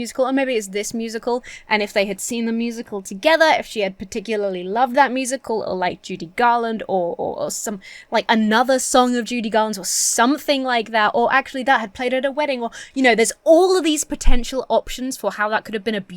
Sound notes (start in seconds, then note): none